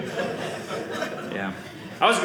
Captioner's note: audience laughing